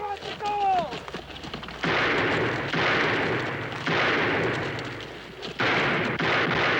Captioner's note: gunshots